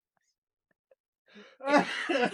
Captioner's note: laughing